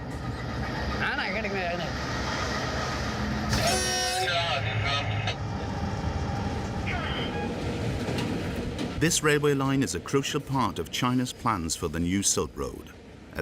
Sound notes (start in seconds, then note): 1.0 conductor speaking foreign language; 3.5 train horn blaring; 4.5 dispatcher speaking foreign language